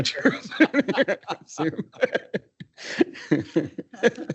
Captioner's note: laughs